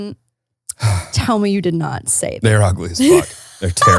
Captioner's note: sighs; laughs